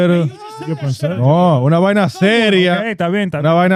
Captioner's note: laughing; speaking In Foreign Language